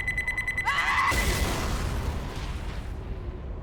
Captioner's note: pipe Bomb Explosion